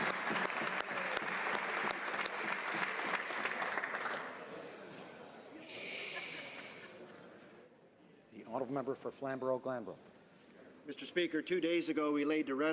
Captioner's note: applause